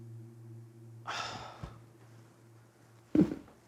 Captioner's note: sighing